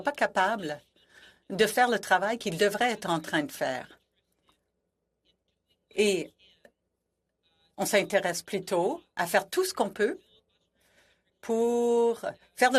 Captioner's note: speaking French